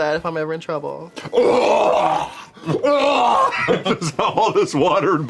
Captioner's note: vomits